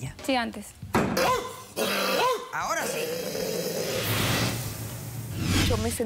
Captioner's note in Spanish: imita a un perro